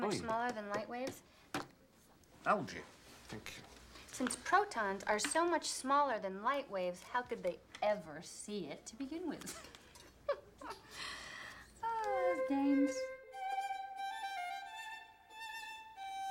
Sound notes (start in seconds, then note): 10.0 chuckles